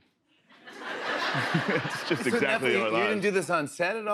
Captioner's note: laughter